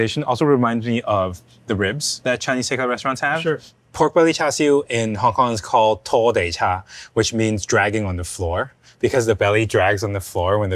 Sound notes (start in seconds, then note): 6.1 speaking Cantonese